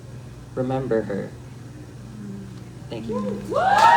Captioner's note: snaps and applause